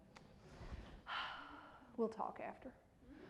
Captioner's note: sighs